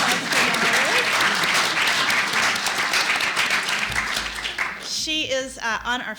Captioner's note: applause